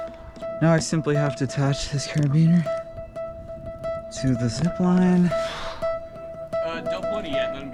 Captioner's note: heavy breathing